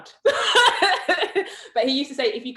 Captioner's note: laughs